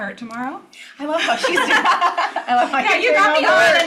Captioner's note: laughs